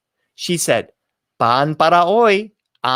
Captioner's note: spoken in foreign language